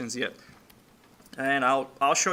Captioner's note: clicking Sounds